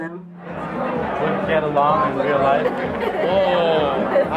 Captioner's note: crowd chattering